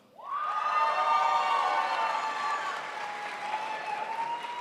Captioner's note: crowd applauds